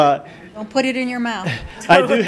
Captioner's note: laughing